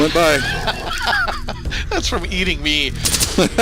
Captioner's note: laughing; laughing